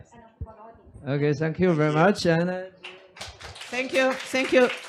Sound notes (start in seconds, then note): 2.8 audience claps